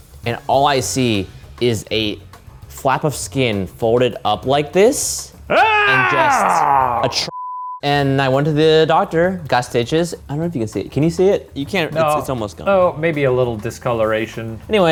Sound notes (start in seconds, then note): 5.5 screams; 7.3 beep